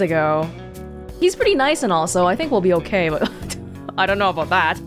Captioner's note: scoffs